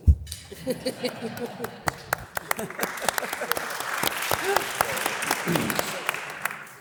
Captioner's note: audience laughs; audience applause